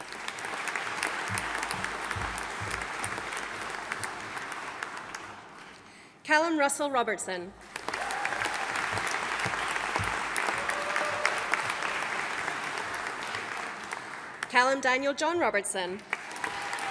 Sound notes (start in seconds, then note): 0.0 audience applauding; 7.6 audience applauding